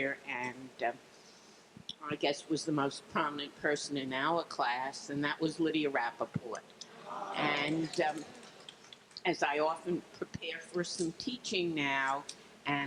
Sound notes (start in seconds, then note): 6.9 crowd